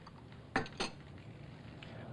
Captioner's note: teacup sets down